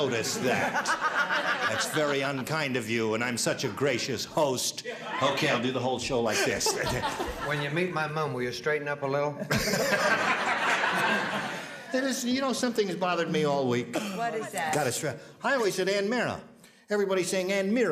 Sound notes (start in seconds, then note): 9.4 laughter